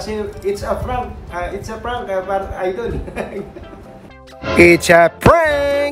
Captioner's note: laughing